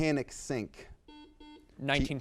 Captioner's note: buzzer beeps